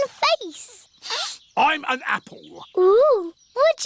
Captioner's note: sniffs